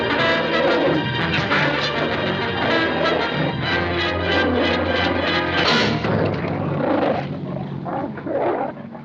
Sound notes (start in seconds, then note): 4.1 growling Continues